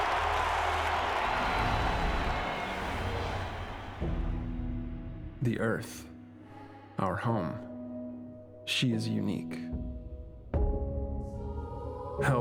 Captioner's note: cheers and applause